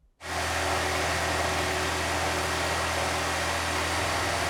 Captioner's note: saw whirring